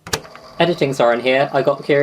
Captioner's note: tape recoder clicks on